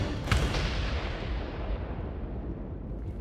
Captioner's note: firework noises